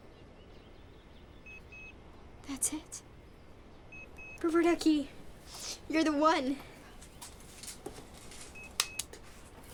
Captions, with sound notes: [faint beeping] That's it. Rubber Ducky, you're the one. [faint beep]